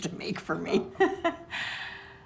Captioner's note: laughing